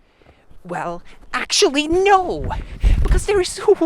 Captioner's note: approaching footsteps